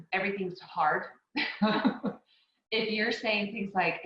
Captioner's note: laughing